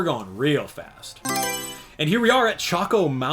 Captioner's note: Mario Selection Sound